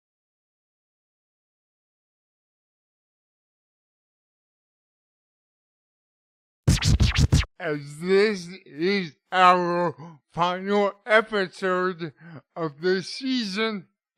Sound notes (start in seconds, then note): 6.6 old-school record scratch